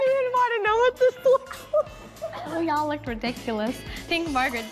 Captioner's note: laughing